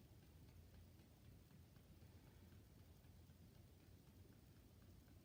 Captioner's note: gentle tapping